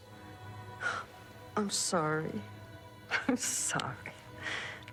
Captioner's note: scoffs